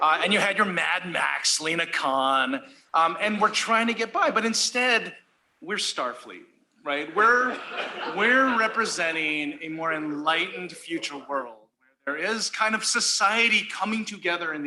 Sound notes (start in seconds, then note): 7.2 laughter